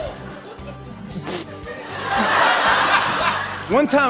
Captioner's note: laughter